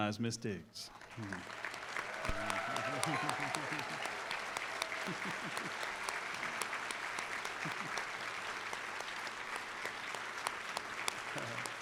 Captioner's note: applause